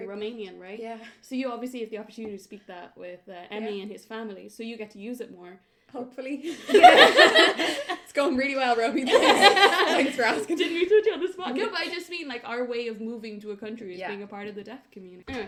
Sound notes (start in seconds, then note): 6.5 laughter; 12.9 laughs